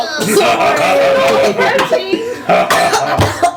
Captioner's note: Maklaw and Ping-Pong laughing